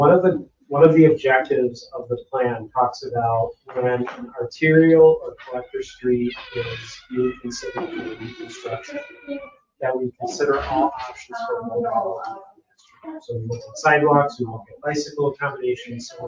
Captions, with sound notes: So one of the objectives of the plan talks about when an arterial or collector street is to be considered for reconstruction. That we consider all options for. (members chattering) So we look at sidewalks, we at bicycle accommodations,